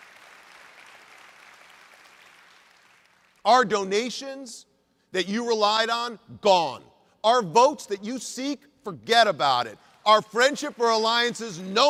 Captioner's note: applause